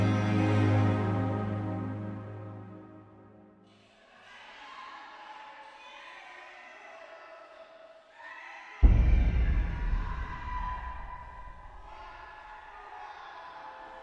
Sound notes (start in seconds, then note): 4.5 indistinct shouting; 8.8 suspenseful music